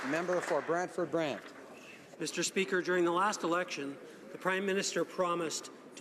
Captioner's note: applause